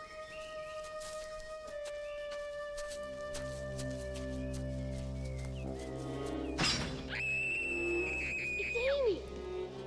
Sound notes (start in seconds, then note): 6.6 metal clangs; 6.6 Amy screams